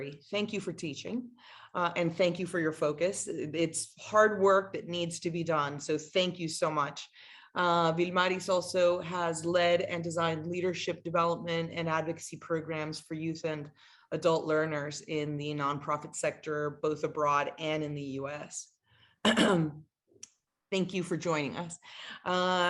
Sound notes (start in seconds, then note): 19.2 clears throat